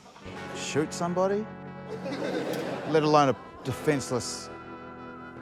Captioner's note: laughter